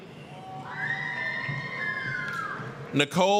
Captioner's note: applause, cheering